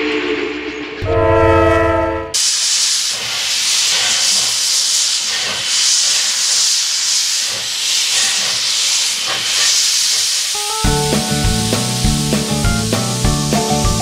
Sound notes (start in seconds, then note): 3.8 steam shooting; 10.6 upbeat music